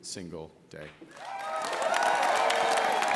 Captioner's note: applause